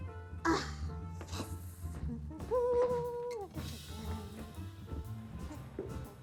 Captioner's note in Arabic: همهمات